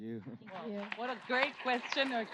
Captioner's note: applause